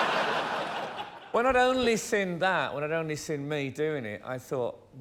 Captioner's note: laughter